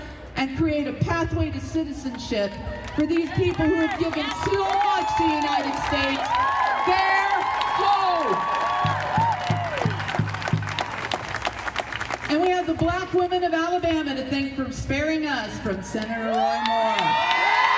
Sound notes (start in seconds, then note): 9.1 audience cheering; 16.4 audience cheering loudly